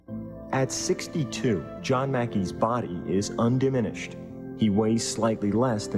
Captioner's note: voiceover